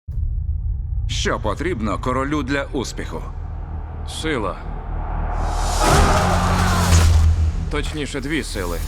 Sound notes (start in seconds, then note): 0.1 foreboding music playing; 5.7 soldiers clamoring